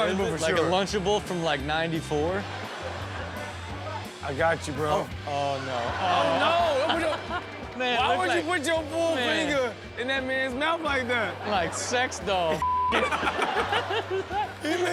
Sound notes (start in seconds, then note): 12.6 beep; 12.9 all laugh